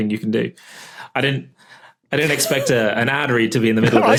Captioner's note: wheezes